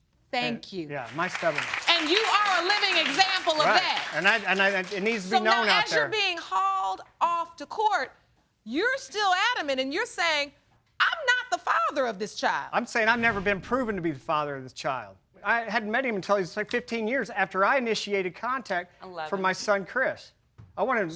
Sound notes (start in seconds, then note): 0.9 applause; 4.0 stutters